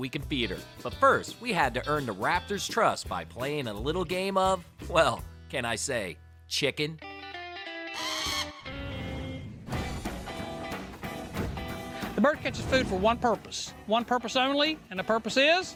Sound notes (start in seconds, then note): 6.9 upbeat music; 7.9 hawk screeching